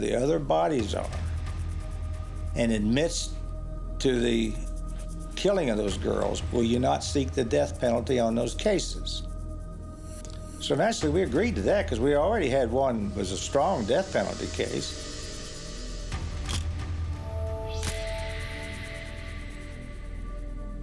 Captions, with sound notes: THE OTHER BODIES ARE AND ADMITS TO THE KILLING OF THOSE GIRLS, WILL YOU NOT SEEK THE DEATH PENALTY ON THOSE CASES? SO NATURALLY WE AGREED TO THAT BECAUSE WE ALREADY HAD ONE WAS A STRONG DEATH PENALTY CASE. [camera shutter click]